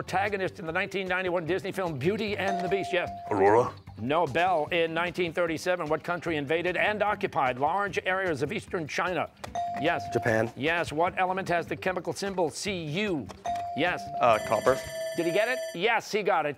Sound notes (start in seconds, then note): 13.4 bell ringing